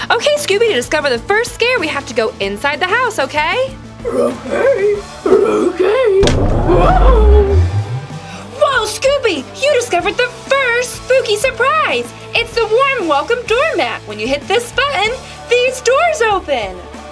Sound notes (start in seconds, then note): 6.2 boom